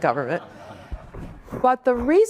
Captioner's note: audience laughs